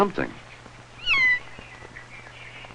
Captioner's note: kittens mews